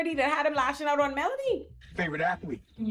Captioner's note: none